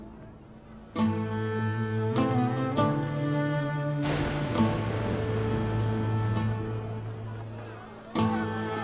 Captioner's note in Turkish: Müzik - Dombra; Gök gürültüsü efekti